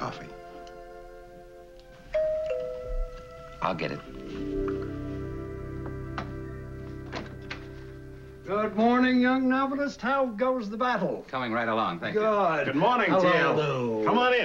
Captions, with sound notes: (door bell ringing) I'll get it. Good morning young novelist, how goes the battle? Coming right along, thank you. -Good. -Good morning, T.L. -Hello, Lew. -Come on in!